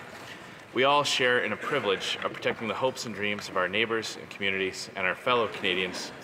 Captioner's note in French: voix de l'interprète